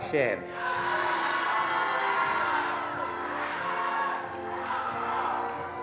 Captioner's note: attendees cheering and applauding